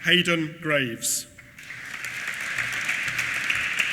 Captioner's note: applause